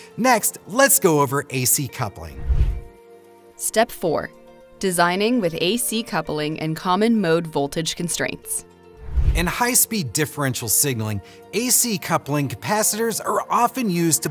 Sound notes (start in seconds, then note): 2.3 air whooshes